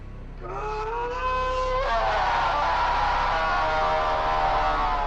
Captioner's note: groaning